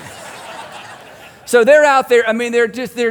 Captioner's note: congregation laughing